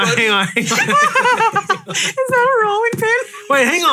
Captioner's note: all laughing; laughing